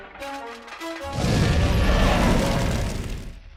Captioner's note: roars